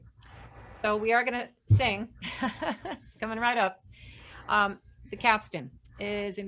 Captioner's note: laughs